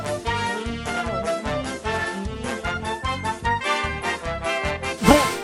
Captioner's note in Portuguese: Sons de símio preso